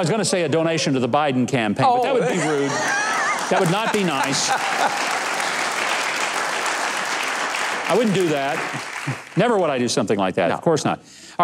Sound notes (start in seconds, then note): 2.1 laughs; 2.9 audience applauds